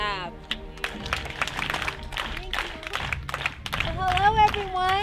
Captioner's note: all applauding